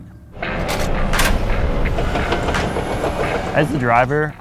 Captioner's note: tank revs